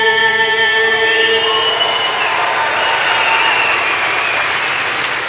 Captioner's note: applause